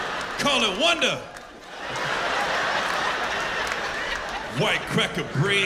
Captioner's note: laughter